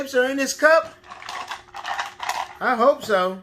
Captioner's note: shape objects cluttering